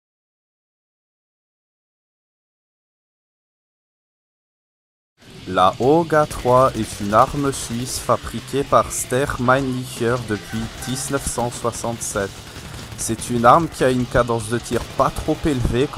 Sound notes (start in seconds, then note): 5.3 ridiculous Swiss Accent